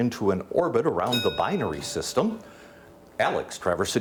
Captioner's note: bell dings